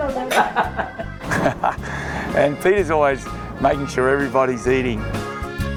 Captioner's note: laughs